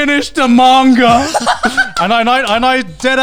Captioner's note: laughs